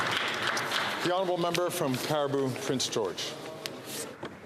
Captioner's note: some Applause